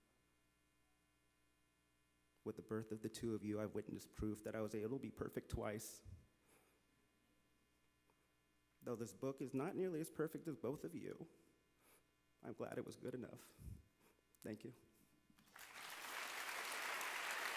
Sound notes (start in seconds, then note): 15.4 applause